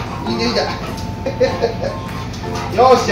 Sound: laughter

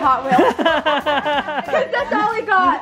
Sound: all laugh

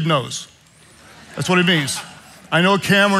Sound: congregation laughing

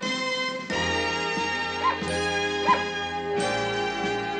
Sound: barks

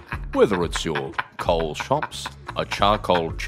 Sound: still f*ckin losing it

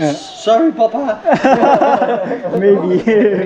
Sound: laughs

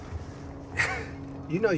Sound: Alonzo scoffing

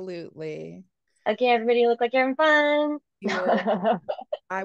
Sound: laugh

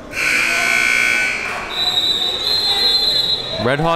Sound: klaxon and whitle blows

